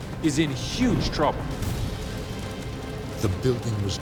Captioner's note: fire crackles; intense music